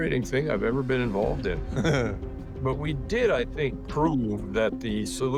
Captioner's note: chuckles